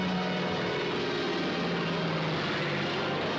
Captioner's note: whirring